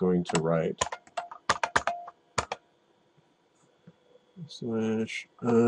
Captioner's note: typing